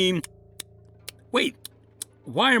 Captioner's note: chewing